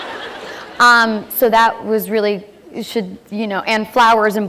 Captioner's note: laughter